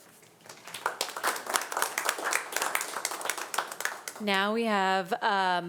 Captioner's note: audience applauding